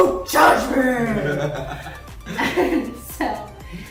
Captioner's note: laughs